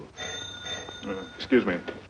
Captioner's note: phone rings